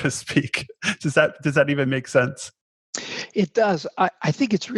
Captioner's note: chuckles